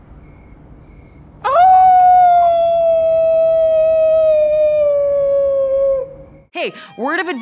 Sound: howling

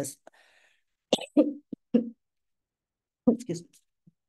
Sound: clears throat

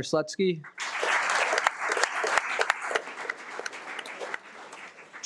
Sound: audience clapping

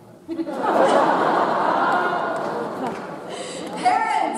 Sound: audience laughs

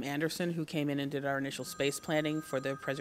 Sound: phone rings

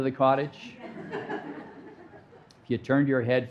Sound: audience laughing

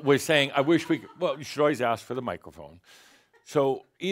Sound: some laughter

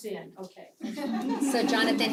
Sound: laugh

